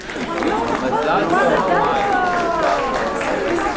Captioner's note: aplausos